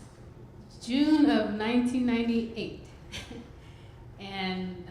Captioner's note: chuckles